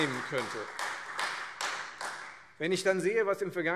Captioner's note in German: Beifall Freie Demokraten und vereinzelt SPD